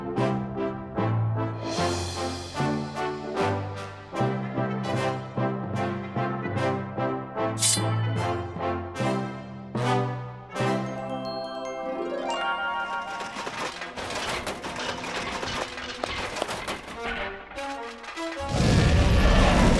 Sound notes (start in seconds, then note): 12.6 metal clanging; 18.4 roars